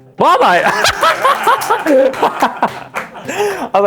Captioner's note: laughter